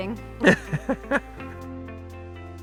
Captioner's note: laugh